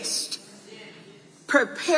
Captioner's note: audience agreeing